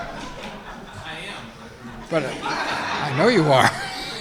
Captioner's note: audience laughing